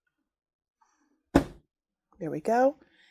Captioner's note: light thudding